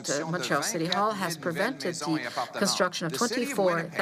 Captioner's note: speaking French